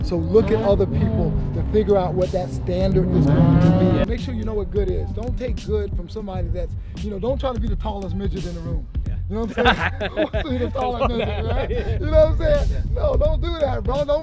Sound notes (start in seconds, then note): 9.4 laughing